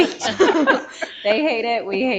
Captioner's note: all laughing